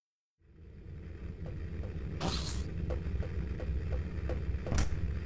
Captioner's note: sound of footsteps, door opens